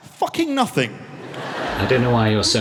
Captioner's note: audience laughs